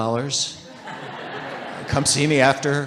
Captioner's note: audience laughing